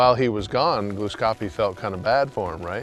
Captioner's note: dirt shifting